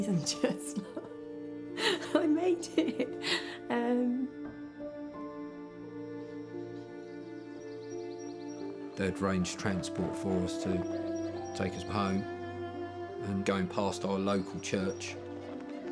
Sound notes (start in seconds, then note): 2.6 chuckles; 7.7 birds chirping